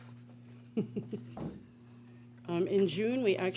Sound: chuckles

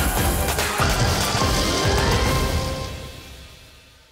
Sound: fire sizzling

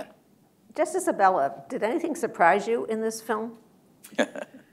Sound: laughter

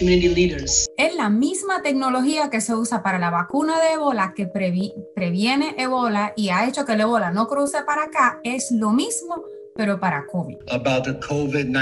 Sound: speaking spanish

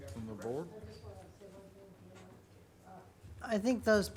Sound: speaks faintly

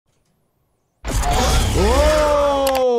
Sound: lightsaber powering up

